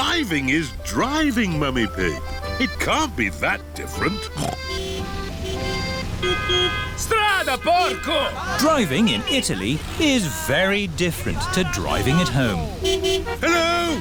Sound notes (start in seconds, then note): 4.1 snorts; 5.3 driver yells in italian; 5.3 horns honking; 13.8 horns honking